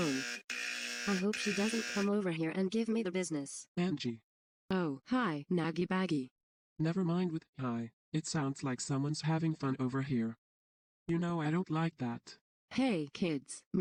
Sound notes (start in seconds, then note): 2.9 imitating Ava; 4.4 normal voice; 6.5 imitating Ava; 12.2 normal voice